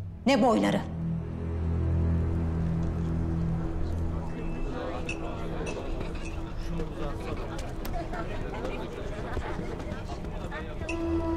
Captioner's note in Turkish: Konuşma sesleri